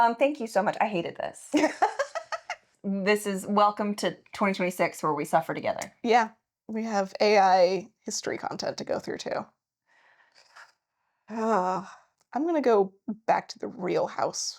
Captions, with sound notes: Thank you so much, I hated this. (laughing) This is welcome to 2026 where we suffer together. Yeah, we have AI history content to go through too. I'm gonna go back to the real house